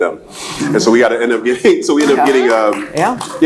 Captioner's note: laughs